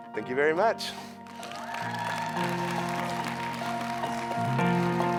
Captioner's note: audience applauds; lighthearted music